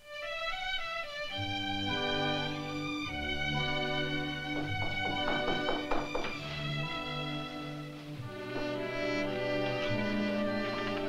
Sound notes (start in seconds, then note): 0.3 gentle music; 4.5 knocking on door; 7.2 gentle music